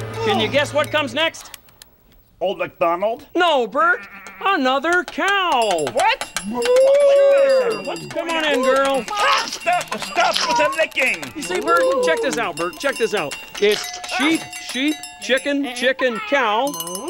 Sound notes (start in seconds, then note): 6.8 cow mooing; 9.0 slurping